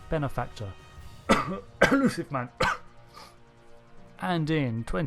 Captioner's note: cough